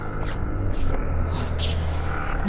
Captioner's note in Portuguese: sem fôlego